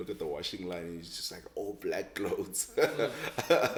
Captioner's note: laughs